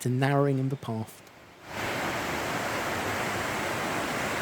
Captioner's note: sound of rushing water